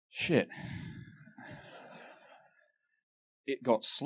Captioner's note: laughter